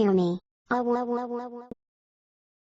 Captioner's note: TTS bad attempt at saying "AAAAAHHH"